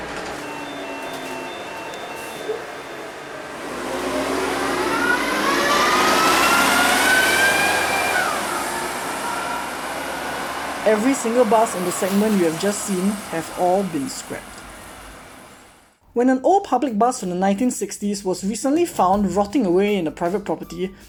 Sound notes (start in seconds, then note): 0.1 BUS STOPPING bell; 3.8 Volvo Olympian 3-axle moving off